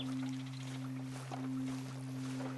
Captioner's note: none